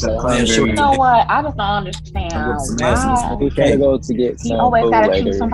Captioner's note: other students talking